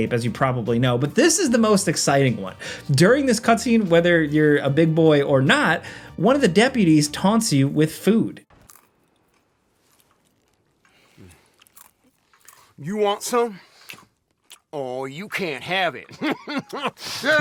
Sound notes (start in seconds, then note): 8.5 munching; 15.8 laughs